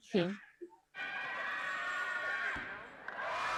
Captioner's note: cheering